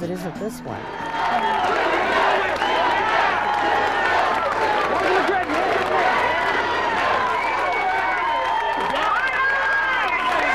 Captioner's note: cheering & chanting